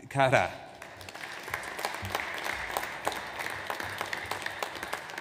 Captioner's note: audience applauds